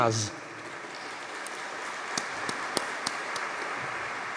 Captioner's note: audience clapping